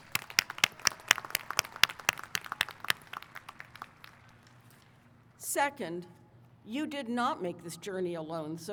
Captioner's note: applause